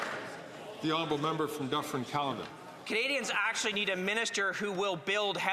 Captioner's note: some Applause